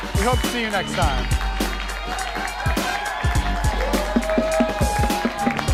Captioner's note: applause